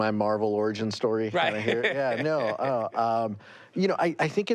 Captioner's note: laughs